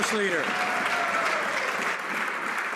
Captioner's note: some Applause